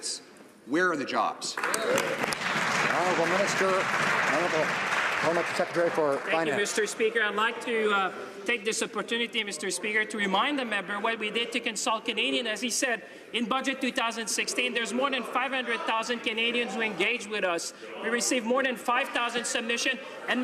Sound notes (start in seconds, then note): 5.1 some Applause